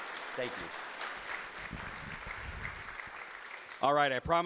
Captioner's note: audience applauding